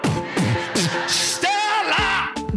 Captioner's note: yelling